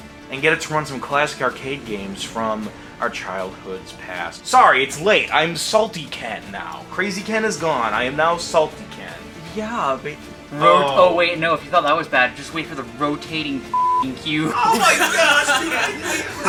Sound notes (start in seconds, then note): 13.7 beeping